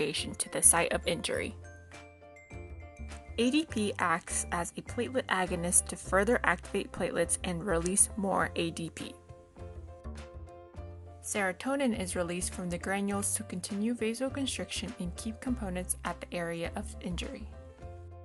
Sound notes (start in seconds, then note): none